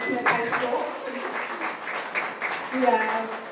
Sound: applause

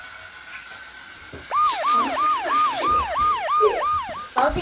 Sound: ambulance siren

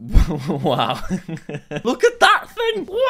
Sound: laughing

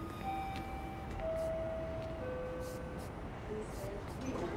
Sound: subway door chime

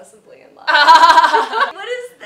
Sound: laughs

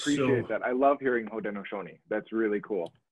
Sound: speaks foreign language

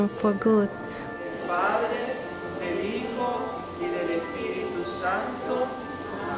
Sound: speaking in foreign language

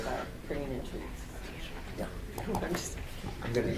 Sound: speaking faintly

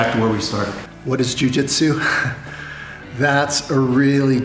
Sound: laughs

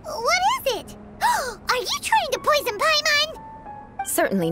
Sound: gasp

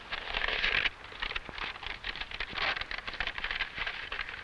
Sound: map rustling

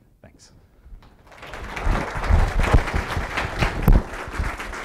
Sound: applause

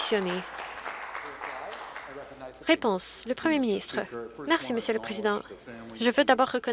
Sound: some Applause

